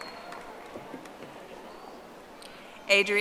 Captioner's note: audience applauding